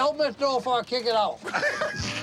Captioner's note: laughs